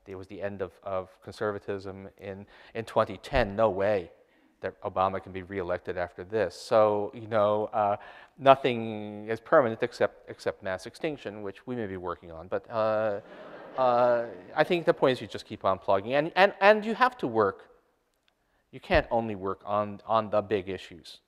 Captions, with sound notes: it was the end of conservatism. In 2010, no way Obama can be reelected after this. So you know, nothing is permanent except mass extinction, which we may be working on. (audience laughter) I think the point's you just keep on plugging. And you have to work, you can't only work on the big issues.